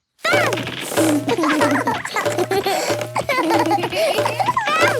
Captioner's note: both laugh